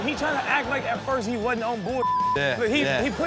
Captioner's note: beep